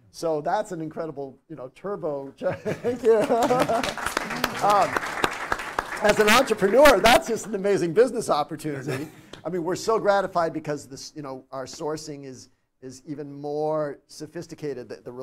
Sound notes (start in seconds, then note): 2.4 laughs; 3.0 audience applauds